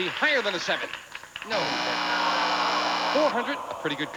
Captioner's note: buzzer sounds